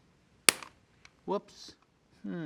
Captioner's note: press snaps